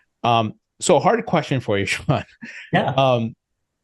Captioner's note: laughs